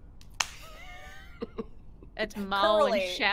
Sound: players laughing

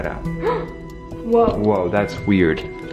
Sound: gasps

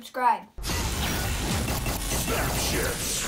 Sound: electric shocks

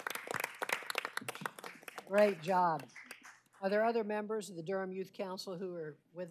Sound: applause

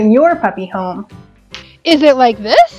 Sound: snap

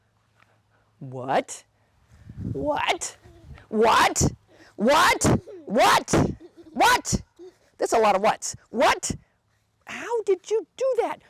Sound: giggles

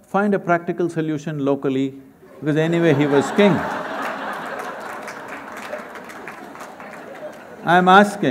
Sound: laughter

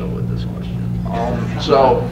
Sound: laughter

